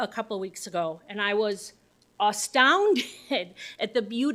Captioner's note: laughs